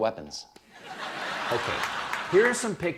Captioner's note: laughter